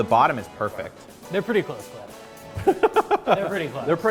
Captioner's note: laughter